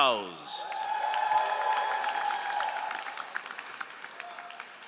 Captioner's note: all applauding